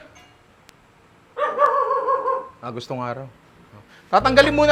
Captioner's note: dog barks